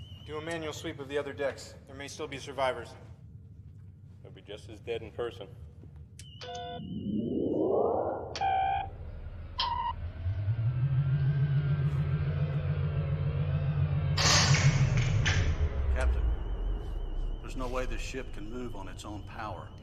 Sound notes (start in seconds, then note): 6.8 power activates; 13.8 power shorts out